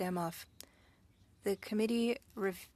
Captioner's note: speaking French